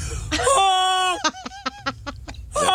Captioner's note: laughing